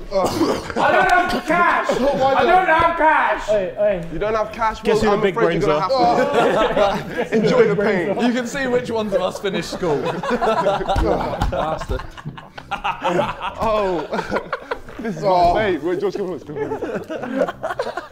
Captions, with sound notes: I don't have cash! I don't have cash! - You don't have cash? Well, I'm afraid you're gonna have to (Sidemen laughing) enjoy your pain, - You can see which ones of us finished school. (Sidemen laughing)